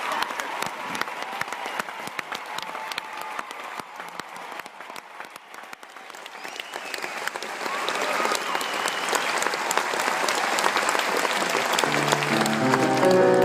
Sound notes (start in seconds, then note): 0.0 applause